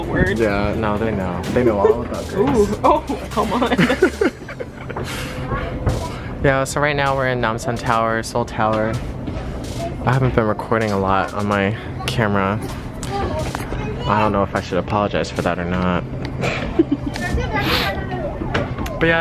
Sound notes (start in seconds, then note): 4.3 both laugh; 16.4 laughs